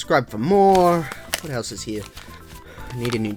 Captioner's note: flipping through pages